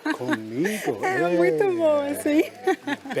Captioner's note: in Portuguese